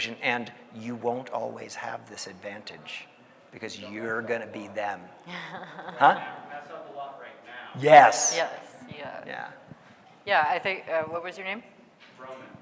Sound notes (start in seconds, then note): 5.3 laughing